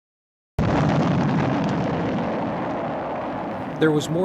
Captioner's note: rocket roars